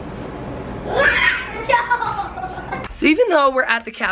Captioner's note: children laughing